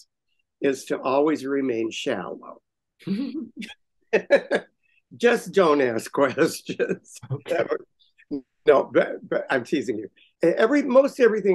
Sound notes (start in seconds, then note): 7.7 laughter